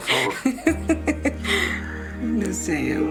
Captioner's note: Cata laughs